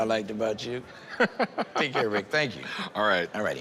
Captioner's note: laughs